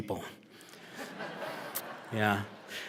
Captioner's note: laughter